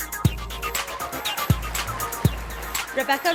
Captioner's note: sound of applause and cheers from the audience